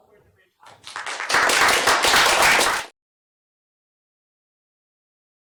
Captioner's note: applause